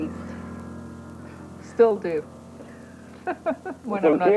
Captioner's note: laughs